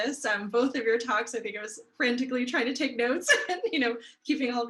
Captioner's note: chuckles